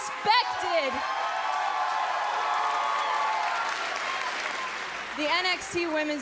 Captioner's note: cheers & applause